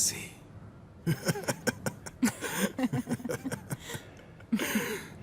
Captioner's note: risas